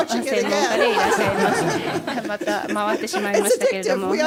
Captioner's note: laughter